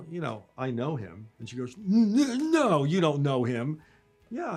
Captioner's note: mimic voice